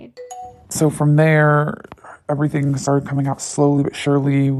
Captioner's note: bingbong